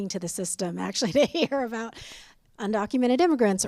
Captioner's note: laughter